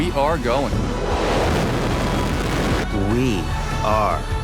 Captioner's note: rocket launching